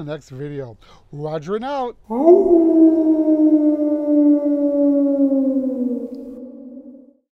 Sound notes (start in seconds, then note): 2.1 wolf Howl